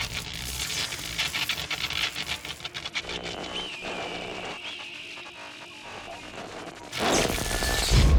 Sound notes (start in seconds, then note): 0.0 buzzing and crackling